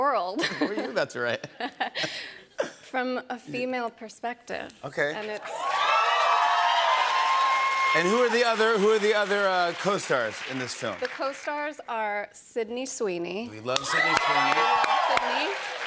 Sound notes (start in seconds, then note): 5.3 cheers and applause